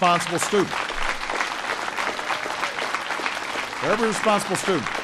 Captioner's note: applause